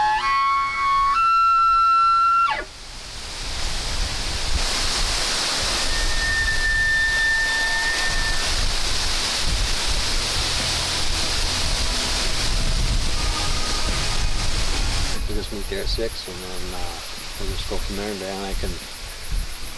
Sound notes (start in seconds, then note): 0.0 bugling; 5.5 leaves rustling; 5.7 elk bugling in the distance